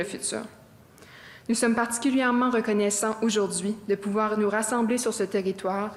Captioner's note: speaking French